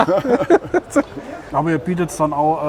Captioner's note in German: lachen; lacht